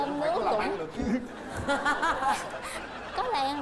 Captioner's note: laughing